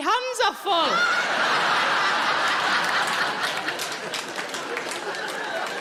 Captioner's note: audience laughing